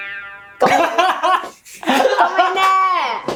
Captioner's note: laughs